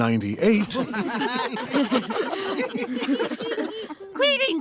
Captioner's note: laughing